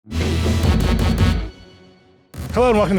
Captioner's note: lively music; graphic buzzing